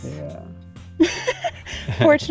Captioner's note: laughs at past selves